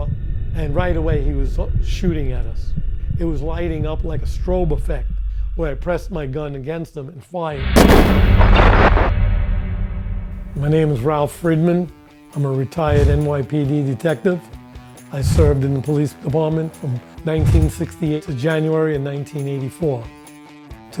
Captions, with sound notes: and right away he was shooting at us. It was lighting up like a strobe effect where I pressed my gun against them and fire. (gun fires) My name is Ralph Friedman. I'm a retired NYPD detective. I served in the police department from 1968 to January in 1984.